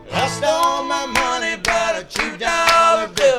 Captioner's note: applause